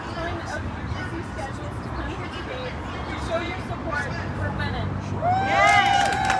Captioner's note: cheering